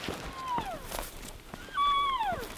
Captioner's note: caller cow calling